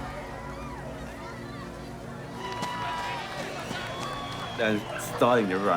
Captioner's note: cheering